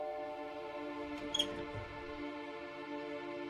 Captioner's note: squeaking door